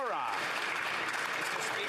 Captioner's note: some Applause